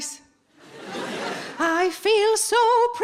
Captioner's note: audience laughing